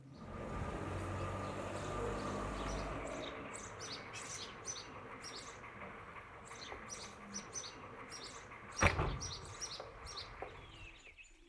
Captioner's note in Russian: щебет птиц